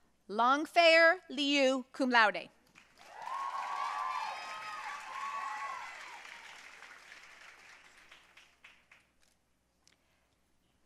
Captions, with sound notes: Langfeier Liu, cum laude. (audience cheering and applauding)